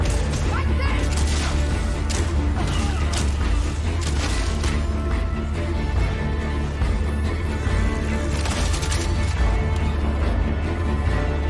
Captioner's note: sound of gunfire